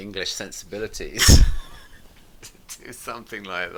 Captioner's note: both laughing